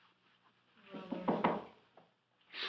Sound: knocking

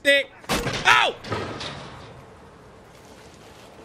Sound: trap thuds

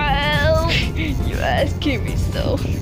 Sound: snickles

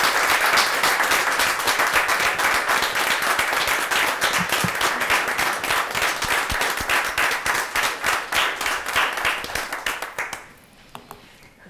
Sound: applause

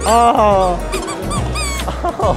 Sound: squeaking

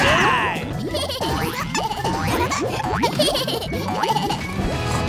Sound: laughing

